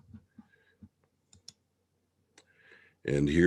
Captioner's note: mouse clicking